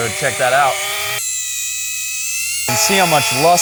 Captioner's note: tape forwards